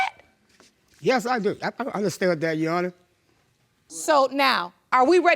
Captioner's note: voice breaking